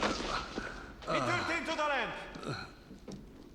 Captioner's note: grunting